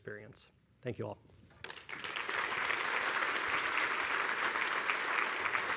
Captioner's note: applause